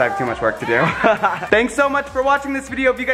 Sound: laughs

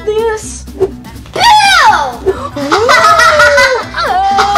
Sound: laughs loudly

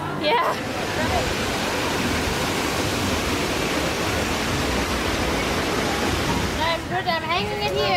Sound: waterfall sounds

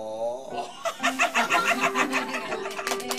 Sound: laughter

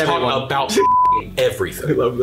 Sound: beeps

